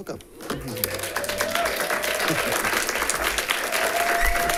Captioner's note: audience claps